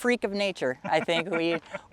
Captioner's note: laughing